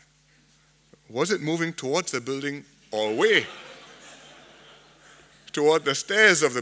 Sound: laughter

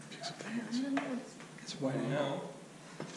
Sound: whisper together

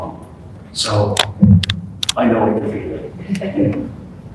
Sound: chuckles

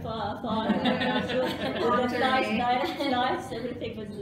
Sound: laughter

